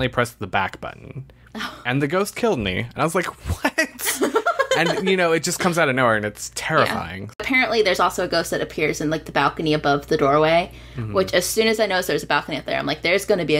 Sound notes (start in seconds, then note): 3.6 laughter